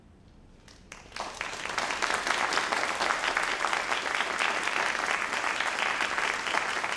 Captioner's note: all applauding